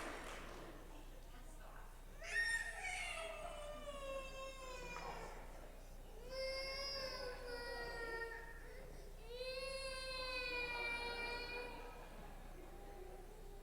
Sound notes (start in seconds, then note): 0.0 applause